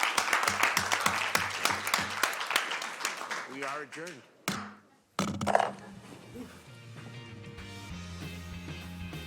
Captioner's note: applause